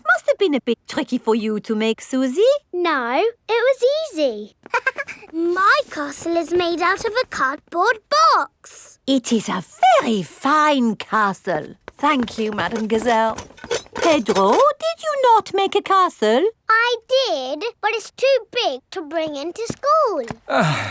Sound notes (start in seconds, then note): 4.6 chuckles